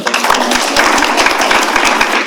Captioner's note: applause